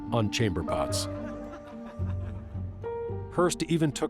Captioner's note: distant laughter